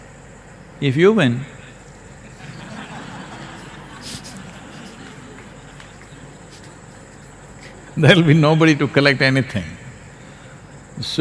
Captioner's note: laughs